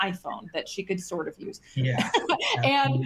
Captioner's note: laughs